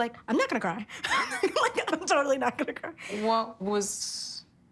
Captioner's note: laughs